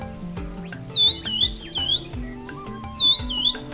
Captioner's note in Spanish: pájaros trinando